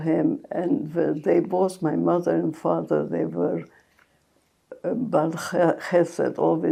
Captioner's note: hebrew